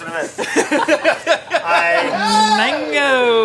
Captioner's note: laughing